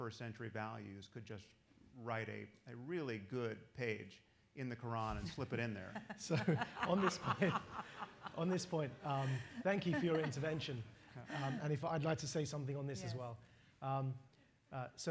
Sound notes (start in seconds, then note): 5.8 laughter